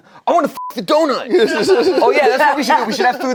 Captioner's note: laughs; beep; laugh